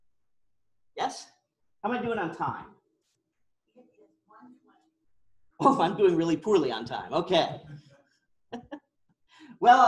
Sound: laughter

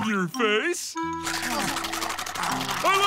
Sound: chomping

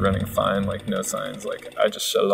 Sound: chainsaw engine revving

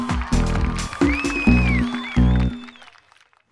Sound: crowd whistling and cheering

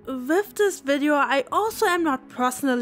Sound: none

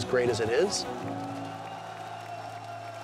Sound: cheering

